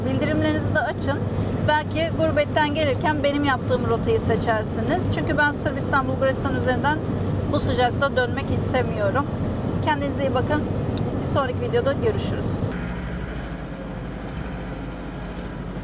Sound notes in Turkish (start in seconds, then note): none